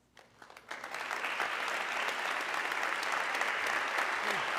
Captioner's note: audience clapping